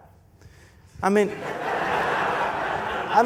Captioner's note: laughter